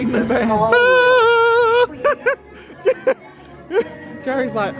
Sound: shrieks and laughs

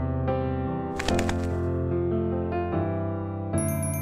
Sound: wings flapping; bell chiming

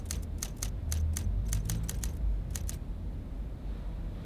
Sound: typewriter clacks

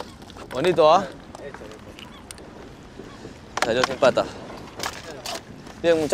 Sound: men speaking foreign language

